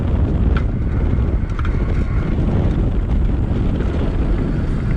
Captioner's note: air whooshing